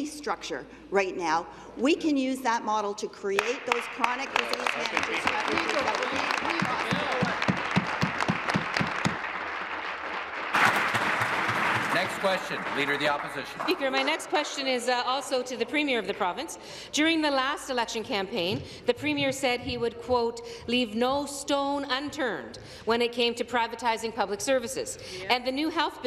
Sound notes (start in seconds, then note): 8.8 applause